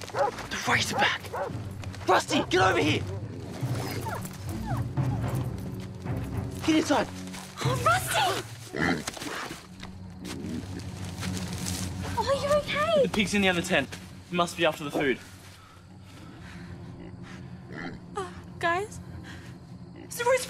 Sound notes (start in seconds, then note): 4.6 Rusty whimpers; 8.7 razorback grunts; 16.9 razorback grunts